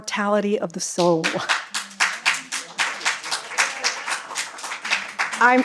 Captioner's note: applause